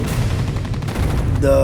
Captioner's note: gunshots